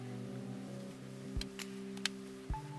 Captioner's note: snaps